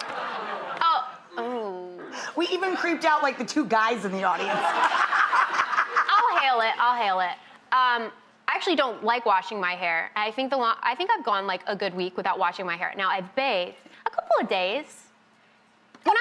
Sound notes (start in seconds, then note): 4.4 laughing